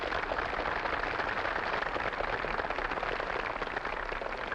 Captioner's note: audience applauding